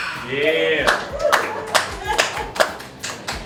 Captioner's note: crowd cheering